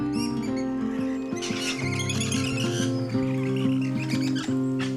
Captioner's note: birds wildly chirping